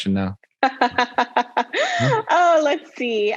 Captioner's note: laughing